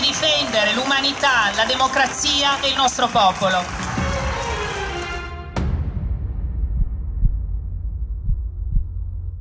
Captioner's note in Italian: Applauso